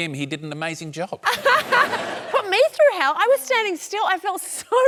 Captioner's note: laughs